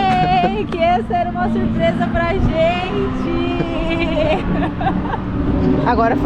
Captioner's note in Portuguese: risos